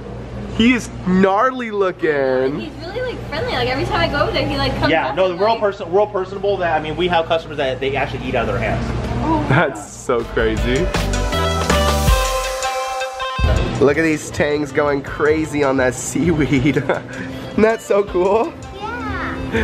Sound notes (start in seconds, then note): 16.3 laughs